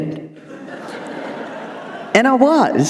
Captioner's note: audience laughing